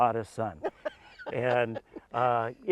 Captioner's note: laughs